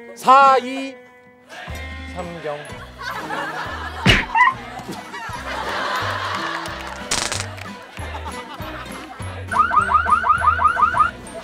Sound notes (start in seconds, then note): 4.0 hits